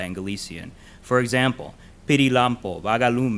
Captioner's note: in a foreign language